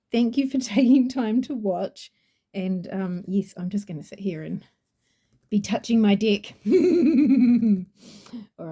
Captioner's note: laughs cheekily